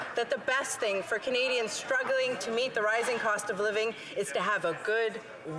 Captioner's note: some Applause